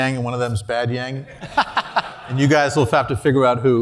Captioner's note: laugh